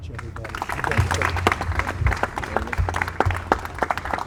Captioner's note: applause